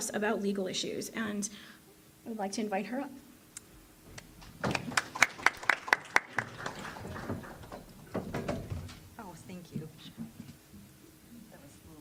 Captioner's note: applause